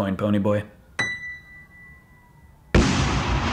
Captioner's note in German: ding; Explosion